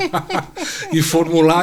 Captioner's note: laughs